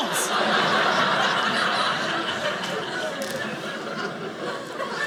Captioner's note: audience laughing